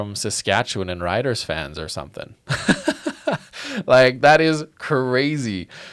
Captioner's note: laughs